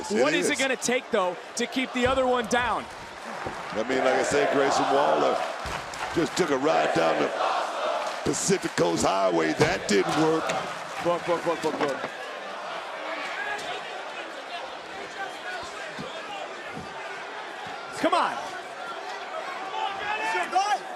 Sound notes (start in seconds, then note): 6.6 crowd chants "this is awesome"